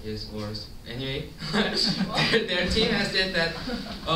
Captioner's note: chuckles